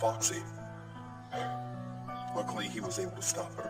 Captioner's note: sigh